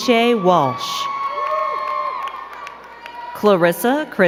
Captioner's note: crowd cheering and clapping